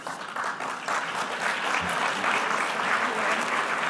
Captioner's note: clapping